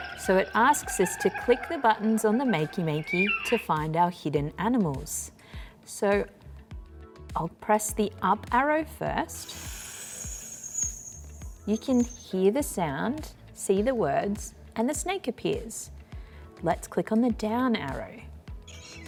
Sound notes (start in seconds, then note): 9.3 snake hissing; 18.7 parrot squawking